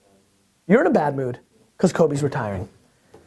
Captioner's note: voiceover